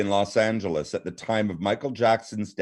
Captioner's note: laughing